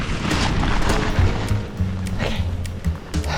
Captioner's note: wind